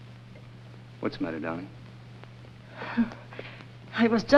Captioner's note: chuckles